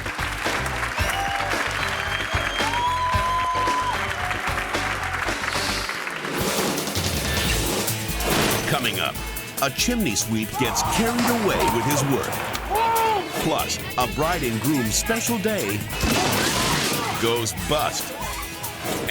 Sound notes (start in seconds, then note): 0.0 cheerful music; 0.0 hands clapping; 0.0 audience cheering; 5.6 graphic whooshes; 7.3 graphic thuds; 7.3 lively upbeat music; 10.5 resident yelling; 16.2 bridge snaps